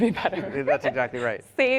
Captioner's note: laughs